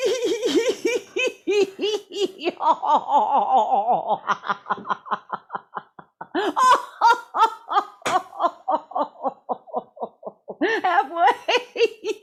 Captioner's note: laughter